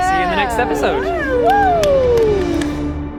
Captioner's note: cheering